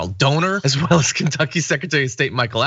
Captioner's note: laugh